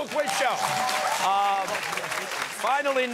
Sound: cheers and applause

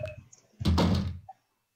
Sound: thud

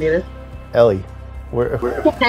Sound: laugh

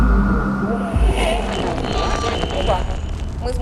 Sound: radio interference

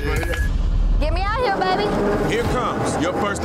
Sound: crane rumbling

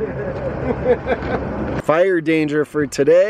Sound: laughing

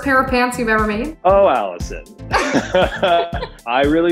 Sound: laughing

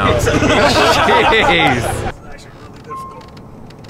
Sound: laughing

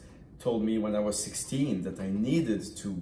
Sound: none

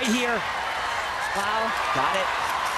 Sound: audience cheering

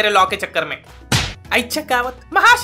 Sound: apple fall sound

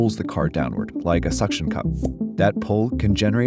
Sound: suction pops

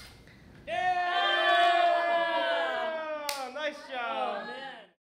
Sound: cheering loudly

